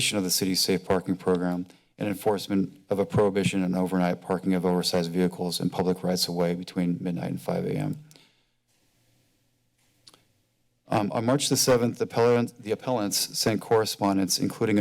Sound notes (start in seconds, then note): 8.0 breaths deeply; 10.0 clicks tongue